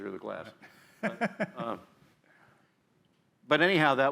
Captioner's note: laughter